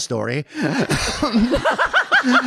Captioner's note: audience laughing; laughing